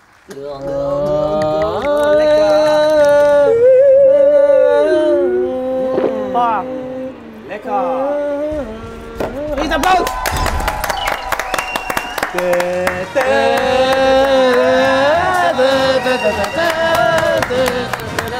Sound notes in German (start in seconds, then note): 0.6 Gespannte Laute; 1.7 Gluckern; 5.4 Schlucken; 10.6 Jubel, Applaus, Pfiffe